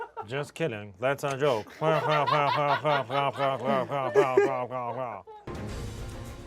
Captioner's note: laughs robotically